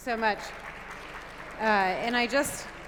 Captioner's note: applause